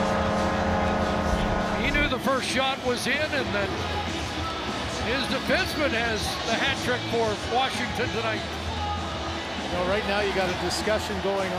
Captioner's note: horn Blowing